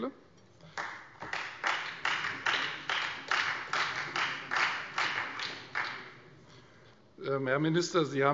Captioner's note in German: Beifall Freie Demokraten und vereinzelt SPD